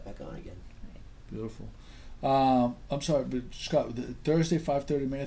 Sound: voiceover

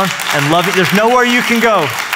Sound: applause

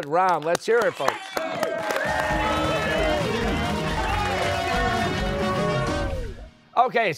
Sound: cheers and applause

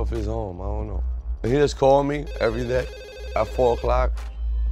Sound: phone ringing

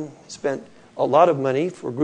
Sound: none

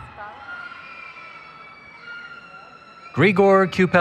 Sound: cheering

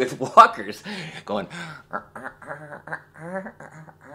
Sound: hums

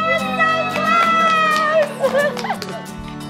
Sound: clapping; laughing

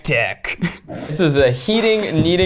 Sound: laughing

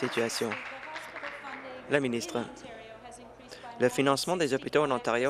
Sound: applause

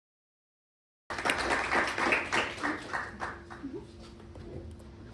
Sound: audience applauding

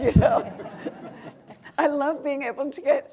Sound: audience and panel laughing

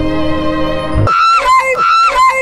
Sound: high-pitched screaming

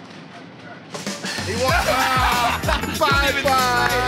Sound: sighs

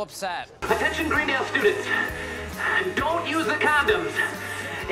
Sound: out of breath

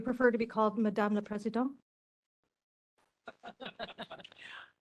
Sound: laughing

